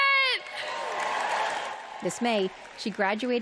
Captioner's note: cheering